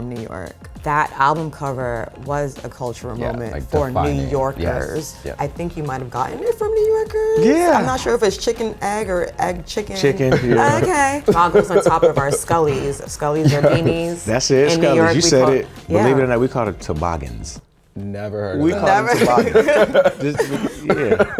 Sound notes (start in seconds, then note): 18.7 laugh; 21.1 electronic music plays